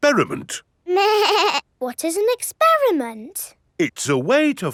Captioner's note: snorts; bleating